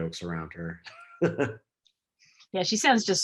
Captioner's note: laughs